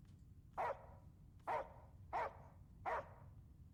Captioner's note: dog barking